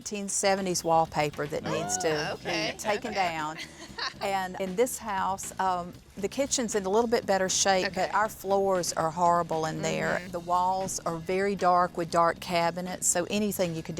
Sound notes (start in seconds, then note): 3.6 laughs